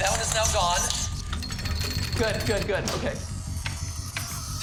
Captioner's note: scratching on glass continues; scratching ceases; door clanks open